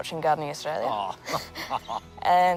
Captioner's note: chuckles